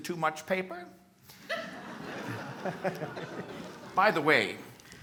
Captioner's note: chuckling